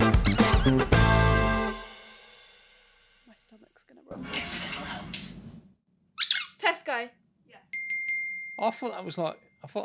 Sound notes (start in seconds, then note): 0.0 upbeat music; 0.2 squeaking; 6.2 squeak